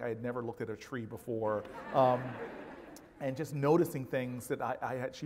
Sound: laugh

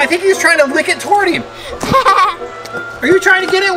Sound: laughing

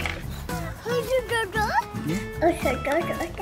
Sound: baby talk

